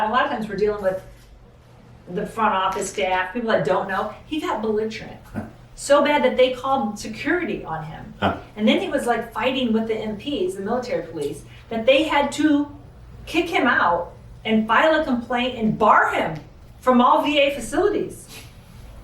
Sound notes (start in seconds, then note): 5.5 chuckles